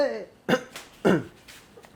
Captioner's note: cough